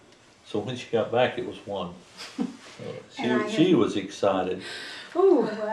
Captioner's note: laughter